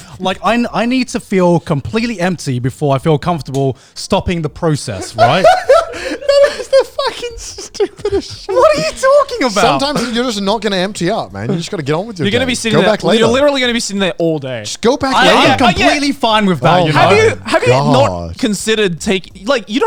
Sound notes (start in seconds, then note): 4.9 laughing